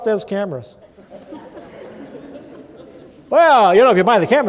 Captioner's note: laughter